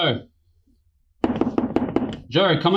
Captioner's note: Lee's knuckles rap against the door in a sharp staccato